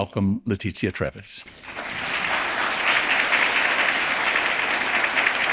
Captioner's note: audience applauding